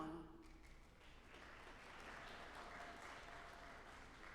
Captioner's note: audience applauding